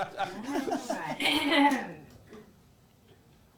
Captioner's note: clearing throat